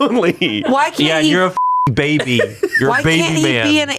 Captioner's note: beep